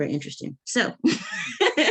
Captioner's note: chuckling